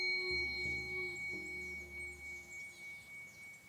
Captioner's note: bell dinging